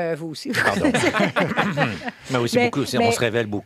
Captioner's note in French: rires